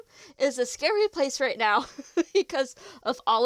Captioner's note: laughs